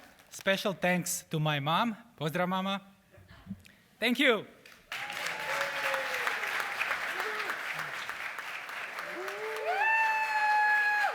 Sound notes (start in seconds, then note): 4.6 applause